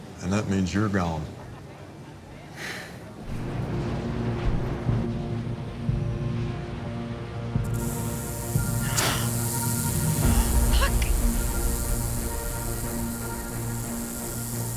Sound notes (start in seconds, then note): 3.9 tense music; 7.6 rattlesnake hisses; 10.2 gasps